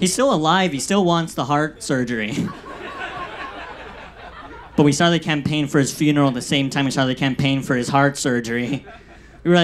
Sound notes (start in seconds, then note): 2.1 audience laughs